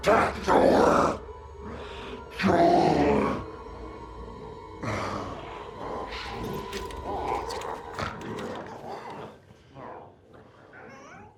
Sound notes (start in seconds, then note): 7.2 glowzies growling